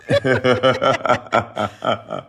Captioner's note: laughter